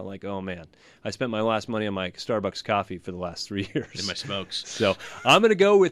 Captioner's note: laughs